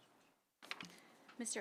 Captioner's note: page turning